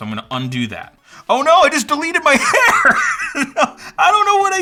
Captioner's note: laughs